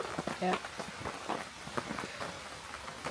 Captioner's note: rain on tent